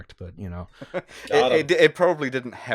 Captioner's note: laughter